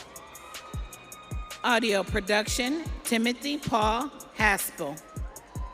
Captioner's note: audience cheering